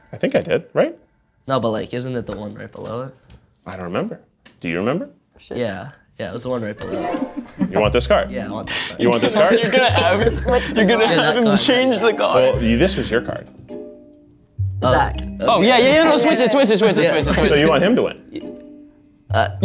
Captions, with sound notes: - I think I did, right? - No, but like, isn't it the one right below it? - I don't remember. Do you remember? - Yeah, yeah. It was the one right below it. - You want this card? - Yeah, I want that card. - You want this card? (audience laughs) - You're gonna have him change the card. - Well, this was your card. - Zach, oh yeah, yeah, yeah. No, switch it, switch it, switch it, switch it. - So you want him to win?